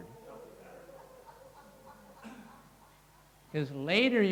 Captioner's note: crowd laughing